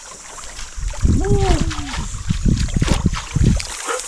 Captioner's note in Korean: 감탄